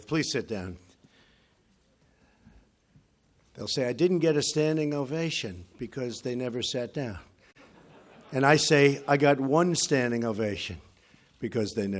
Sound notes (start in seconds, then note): 7.5 laughter